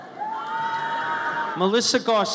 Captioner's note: audience cheers